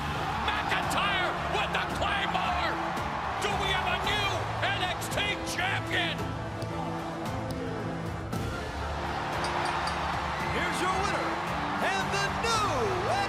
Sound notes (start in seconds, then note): 9.4 bell ringing